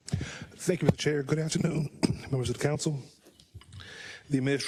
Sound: cough

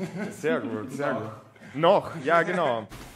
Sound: laughter

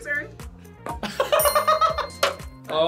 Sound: laughs; React laughs

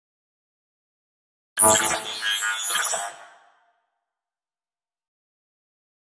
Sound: sound of robot

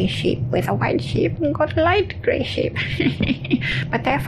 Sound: chuckles

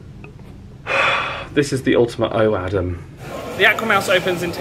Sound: sighs

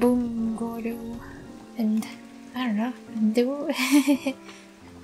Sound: laughter

